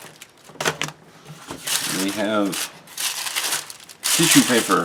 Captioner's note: tissue paper crinkles